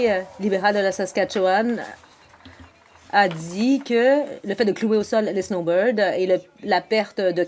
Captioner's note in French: voix de l'interprète